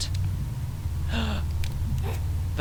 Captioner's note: gasp